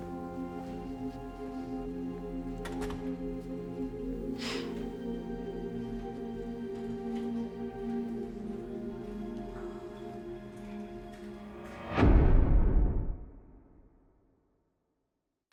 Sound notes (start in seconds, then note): 2.6 door closes; 4.4 sighs